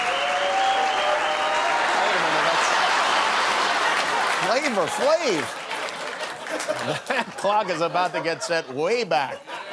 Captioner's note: cheers and applause